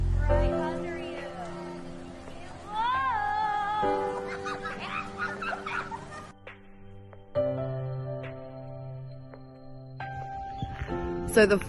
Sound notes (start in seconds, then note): 3.9 giggling; 6.4 background music